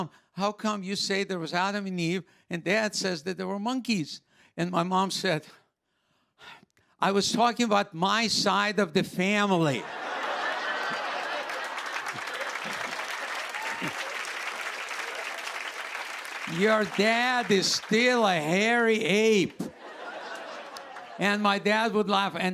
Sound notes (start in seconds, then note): 9.8 laughter; 10.4 applause